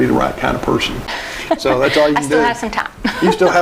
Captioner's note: laughing